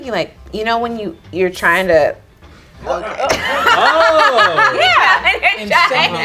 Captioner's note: group laughs